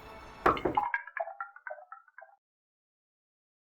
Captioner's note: knock on window